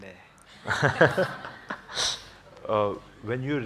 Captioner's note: laughs